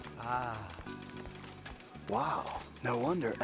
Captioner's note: slot machines clinking